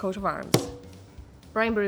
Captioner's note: bang